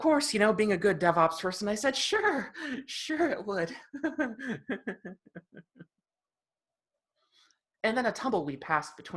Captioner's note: chuckles